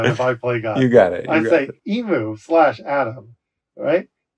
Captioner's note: laughter